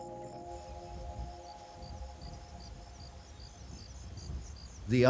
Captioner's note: insects chirping